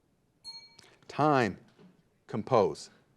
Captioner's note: bell dings